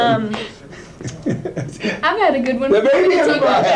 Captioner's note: laughing